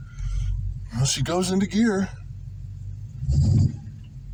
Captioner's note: engine exhaust